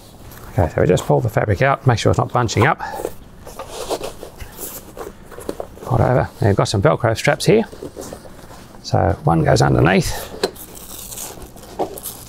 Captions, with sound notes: Okay, so we just pull the fabric out. Make sure it's not bunching up. (fabric scrunching) Fold over, and you've got some Velcro straps here. So one goes underneath (Velcro crunching)